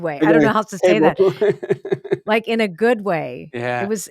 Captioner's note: laughs